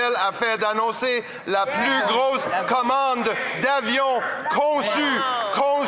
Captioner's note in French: voix de l'interprète